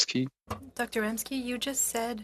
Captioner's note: speaking French